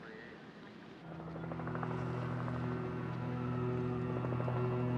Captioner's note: sirens blaring in distance, helicopter hovering